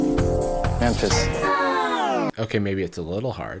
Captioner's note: record scratching